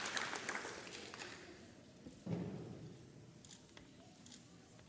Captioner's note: camera clicks